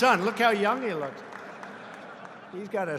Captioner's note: laughter